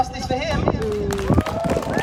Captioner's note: applause; whooping